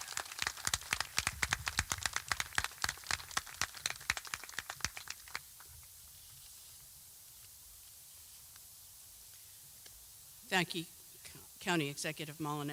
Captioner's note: applause